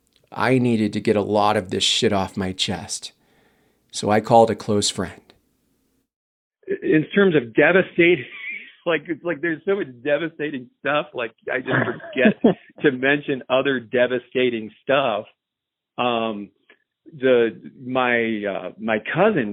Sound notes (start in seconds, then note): 8.7 on phone